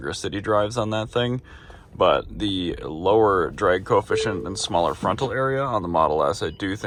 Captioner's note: Model S beeps with PDC warning